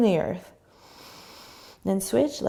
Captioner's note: inhaling